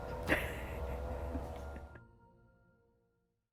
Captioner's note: chuckles